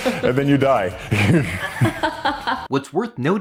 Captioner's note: both laughing